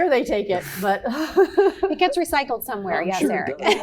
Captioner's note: laugh